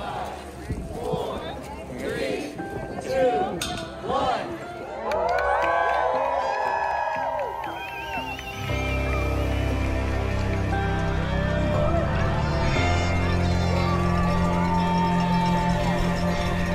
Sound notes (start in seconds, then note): 5.3 people cheering